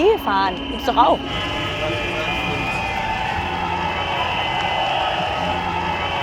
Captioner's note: Demonstrations-Stimmengewirr